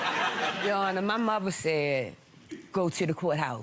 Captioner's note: audience laughing